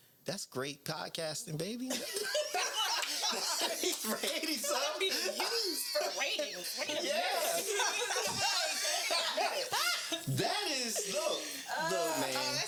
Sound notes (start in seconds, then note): 2.1 laughing; 7.7 laughing